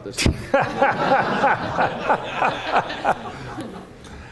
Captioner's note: laughter